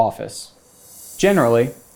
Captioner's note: graphics whooshing